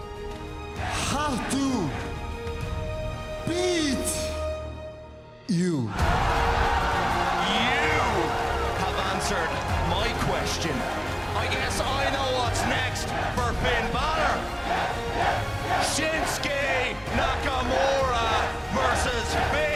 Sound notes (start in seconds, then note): 5.8 cheers and applause; 14.4 fans chanting